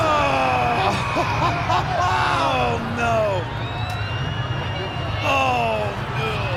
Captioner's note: Bobby laughs